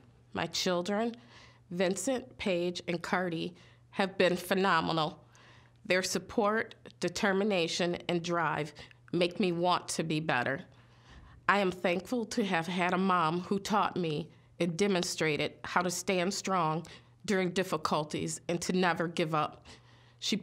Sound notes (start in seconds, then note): none